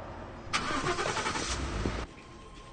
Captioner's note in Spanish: Motor de vehículo